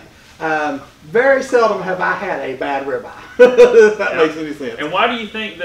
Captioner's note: laughing